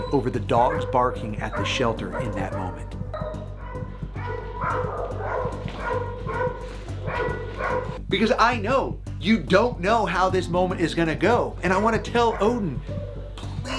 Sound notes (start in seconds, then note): 3.3 raucous barking